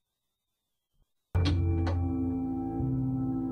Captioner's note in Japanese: 扉を開く音：ガッチャン